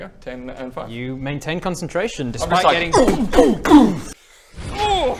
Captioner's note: boom boom BOOM